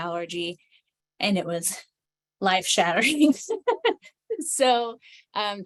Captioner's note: laughs